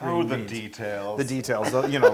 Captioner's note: laugh